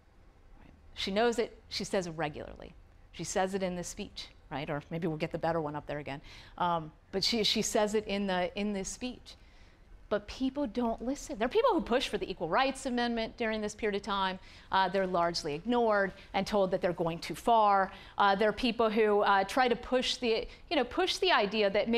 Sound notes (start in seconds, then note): none